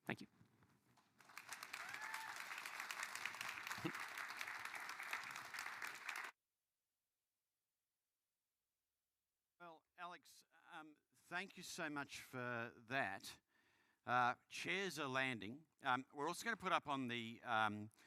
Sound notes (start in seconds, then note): 4.4 applause